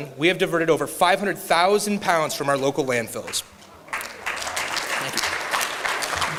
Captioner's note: clapping